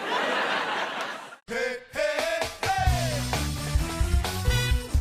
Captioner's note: laughter